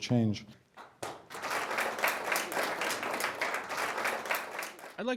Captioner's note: applause